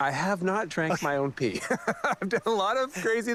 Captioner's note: chuckling